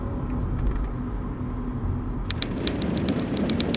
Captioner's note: crickets chirping; train chugging